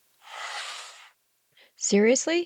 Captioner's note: sound effect